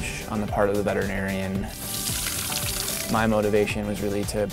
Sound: running water

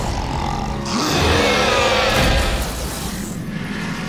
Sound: roaring, squealing

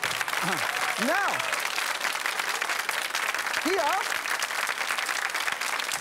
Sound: audience applause

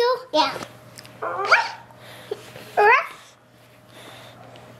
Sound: puppy barking

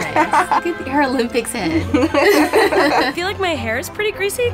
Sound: laughing

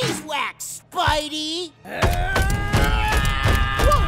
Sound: shouting

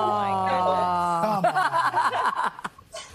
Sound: OOHS and AHHS; laughing

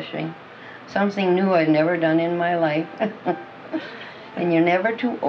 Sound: laughs

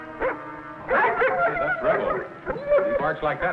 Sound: Rebel barks

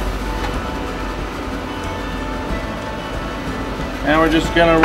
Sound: frying sounds

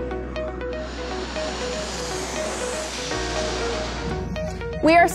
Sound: jet engines rumbling

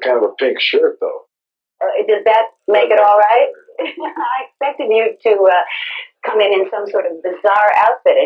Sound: laugh

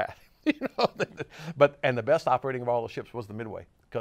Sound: laughs

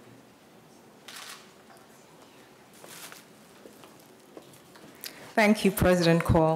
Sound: camera shutter clicks

